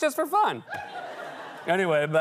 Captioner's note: laughter